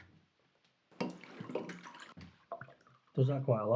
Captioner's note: liquor pouring